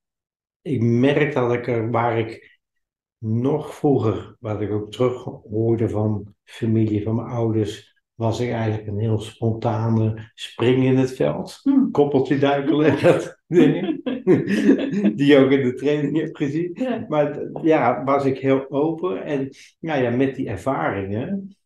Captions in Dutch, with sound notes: Ik merk waar ik nog vroeger, wat ik ook terug hoorde van mijn familie en ouders. Was ik eigenlijk een heel spontane 'spring in het veld'. Koppeltjeduiken [lach] die je ook in de training hebt gezien. Was ik heel open, en met die ervaringen.